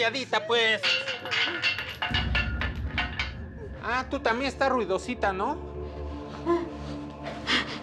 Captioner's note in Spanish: se oye ruido de metales